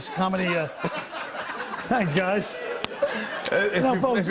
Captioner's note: laughter